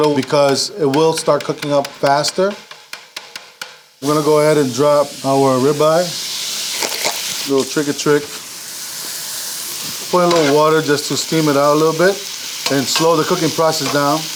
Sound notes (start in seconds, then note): 2.9 tapping grill; 9.1 beef sizzling